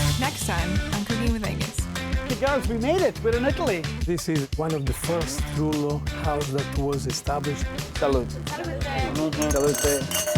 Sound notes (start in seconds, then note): 0.0 upbeat funky music; 4.1 with Italian accent; 9.8 upbeat funky music